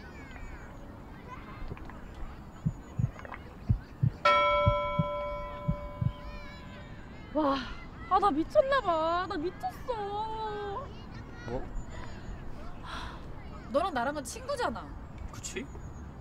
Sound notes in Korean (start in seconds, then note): 1.6 심장 두근거리는 소리